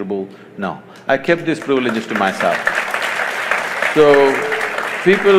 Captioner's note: applause